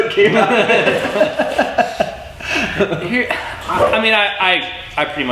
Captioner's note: they laugh